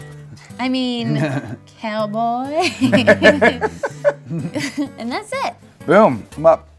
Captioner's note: laughs